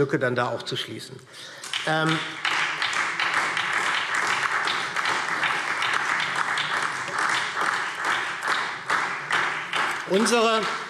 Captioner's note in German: Beifall SPD